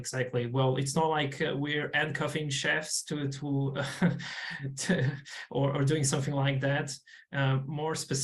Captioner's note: chuckles